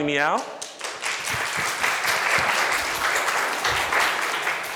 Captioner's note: audience applause